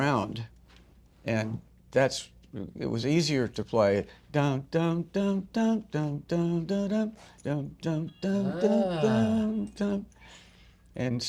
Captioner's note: humming